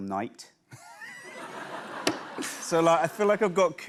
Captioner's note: laughter